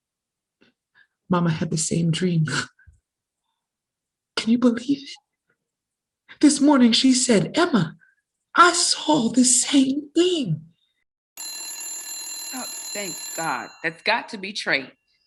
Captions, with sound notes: momma had the same dream. Can you believe it? This morning she said Emma, I saw the same thing. (phone rings) - Thank God, that's got to be Trey.